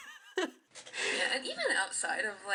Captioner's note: laughter